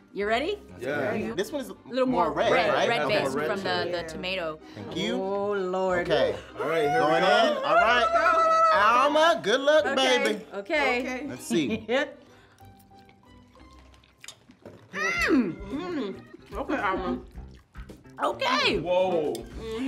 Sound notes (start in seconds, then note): 1.1 all mumbling; 7.5 all shouting